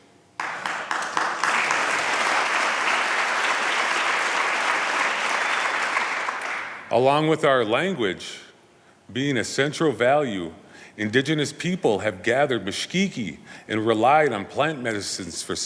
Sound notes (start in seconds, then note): 5.7 applause